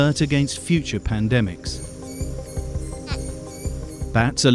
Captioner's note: bat squealing